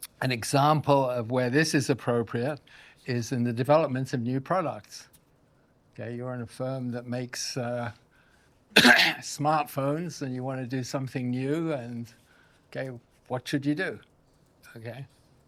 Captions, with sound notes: An example of where this is appropriate is in the developments of new products, okay? You are in a firm that makes (coughs) smartphones and you want to do something new and, okay, what should you do, okay?